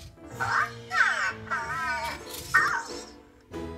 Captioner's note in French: Cozmo parle robot